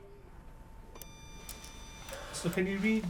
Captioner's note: device beeping